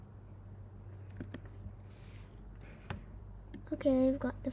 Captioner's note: breaths